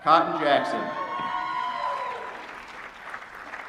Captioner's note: applause